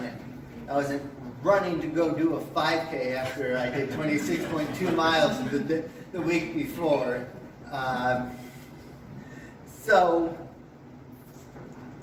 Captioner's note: audience laughs